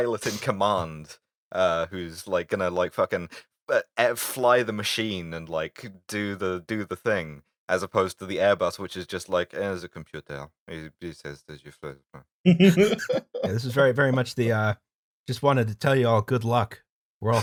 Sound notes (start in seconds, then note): 9.3 dissipated French voice; 12.4 laughter